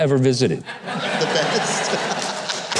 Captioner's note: audience laughing